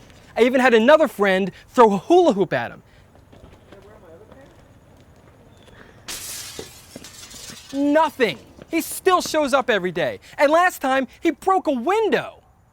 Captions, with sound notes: I even have another friend throw a hula hoop at him. *Window Shatter* Nothing! He still shows up every day! And last time he broke a window!